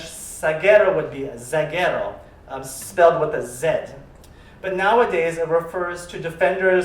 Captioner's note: spanish